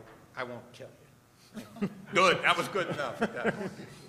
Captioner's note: laughing